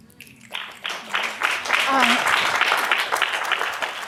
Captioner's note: applause